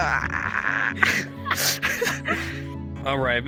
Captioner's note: seagulls laughs; both laughing